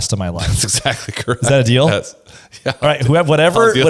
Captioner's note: laughs